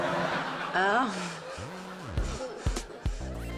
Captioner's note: chuckles